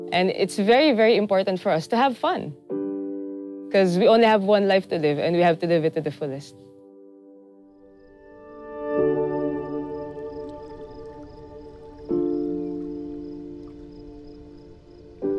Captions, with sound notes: And it's very, very important for us to have fun 'cause we only have one life to live and we have to live it to the fullest. (water rippling)